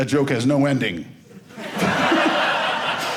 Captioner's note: audience laughing